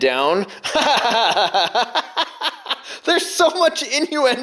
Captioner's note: laughter